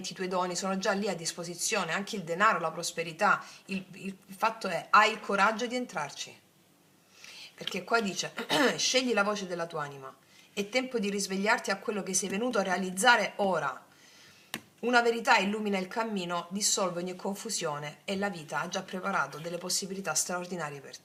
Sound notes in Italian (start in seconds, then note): 8.4 schiarire la voce